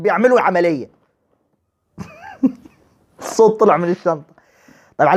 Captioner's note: laughter